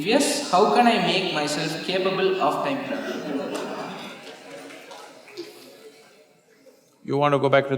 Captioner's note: laughter